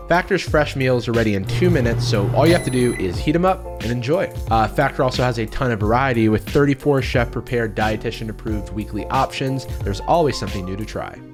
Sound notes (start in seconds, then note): none